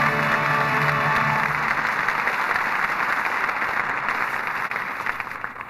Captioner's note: applause